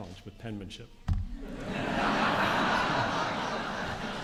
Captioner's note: laughter